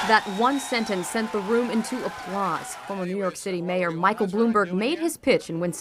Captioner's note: applause